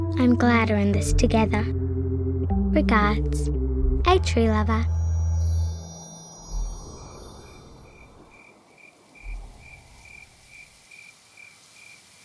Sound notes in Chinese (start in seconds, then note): 7.7 树蛙鸣叫声